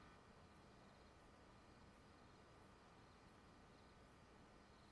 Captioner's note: crickets continue chirping